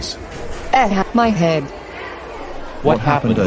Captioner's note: groans